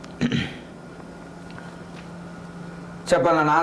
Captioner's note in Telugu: గొంతు సవరించుకోవడం